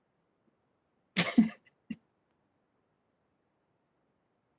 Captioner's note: woman giggling